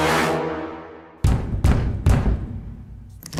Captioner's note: banging on door